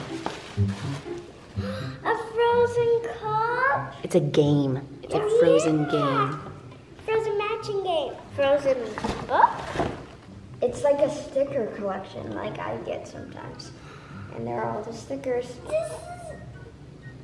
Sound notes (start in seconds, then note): 0.0 playful music; 1.6 gasps